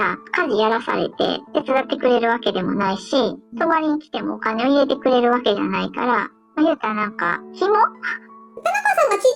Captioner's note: laughs